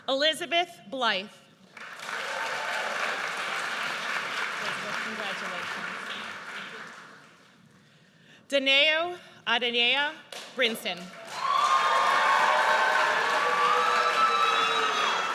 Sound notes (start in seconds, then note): 1.9 audience cheers; 11.1 audience cheers